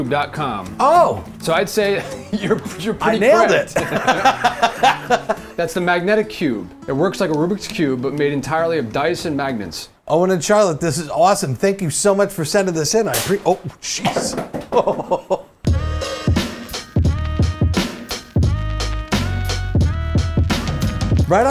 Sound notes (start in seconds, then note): 14.1 box hits light